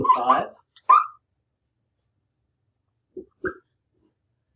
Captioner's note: marker squeaking